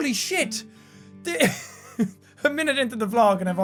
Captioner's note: laughs